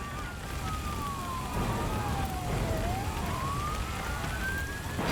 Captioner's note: siren blares